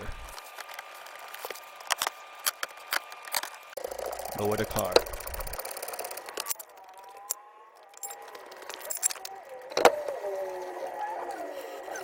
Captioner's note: drill sound